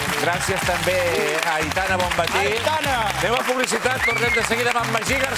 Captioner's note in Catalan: aplaudiments